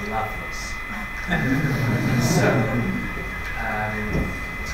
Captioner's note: audience laughing